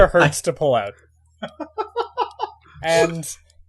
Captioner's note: Markus laughing